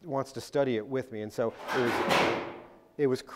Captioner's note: loud bang